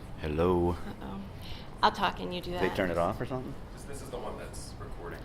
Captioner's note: voiceover